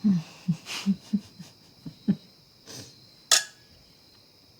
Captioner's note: both chuckling